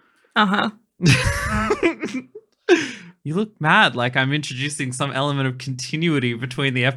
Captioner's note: laughing